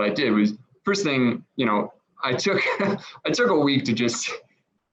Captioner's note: chuckles